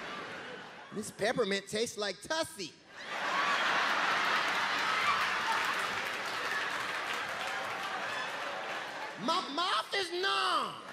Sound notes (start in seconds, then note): 2.9 crowd laughing